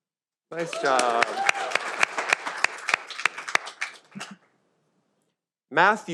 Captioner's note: audience applauding